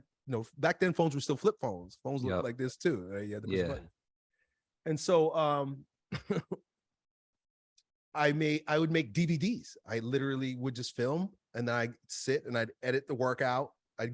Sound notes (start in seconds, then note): 6.1 chuckles